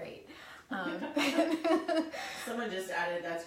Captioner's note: laughing